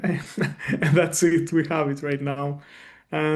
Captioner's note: chuckles